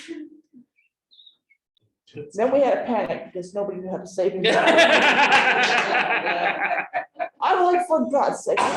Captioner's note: laughter